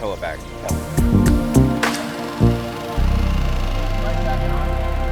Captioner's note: boat engine revving